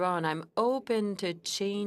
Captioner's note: speaking French